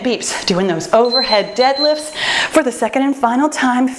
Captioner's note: timer beeps